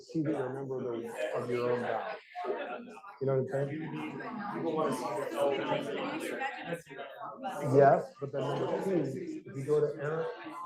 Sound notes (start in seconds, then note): 5.4 students chattering